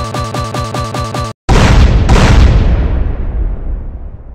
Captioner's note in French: explodes